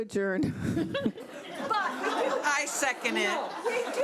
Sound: people laughing

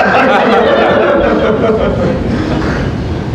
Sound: laughter

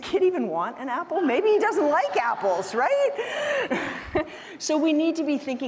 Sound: chuckles

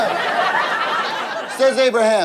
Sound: audience laughter

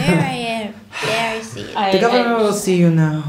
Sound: sigh

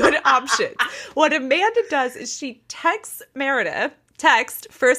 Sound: cackling

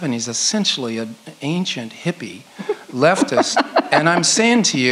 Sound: laughs

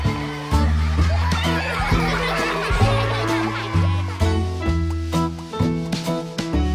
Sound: children giggling

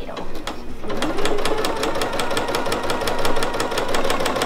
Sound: machine humming

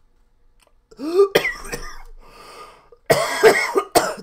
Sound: coughing

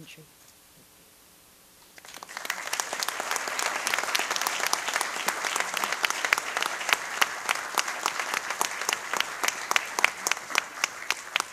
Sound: applause

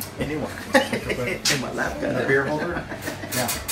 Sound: chuckles

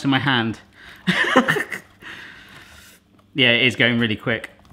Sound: laughs

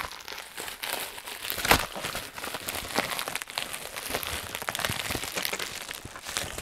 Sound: paper crinkling

